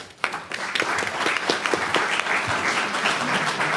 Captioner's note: audience applauds